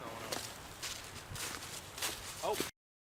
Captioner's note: boots crunching